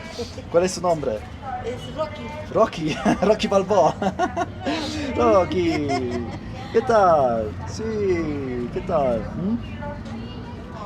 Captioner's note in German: gelächter